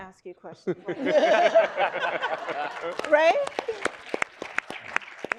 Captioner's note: audience applauding